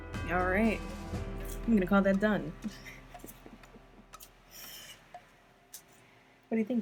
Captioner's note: laughing